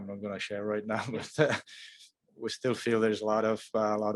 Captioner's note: chuckles